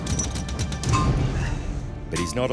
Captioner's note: metal thuds